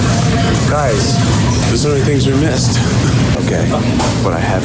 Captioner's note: laughs